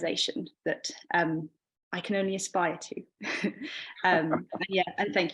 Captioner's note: chuckling